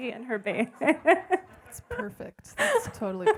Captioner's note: laughing